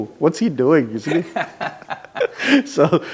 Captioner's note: laughs